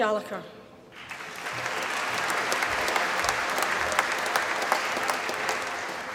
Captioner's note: applause